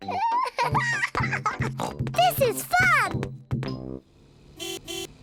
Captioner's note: giggles and oinks; car horn honks